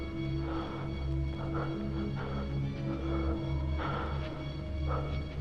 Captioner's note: inmate breathing shallowly